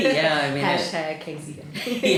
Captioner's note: laughter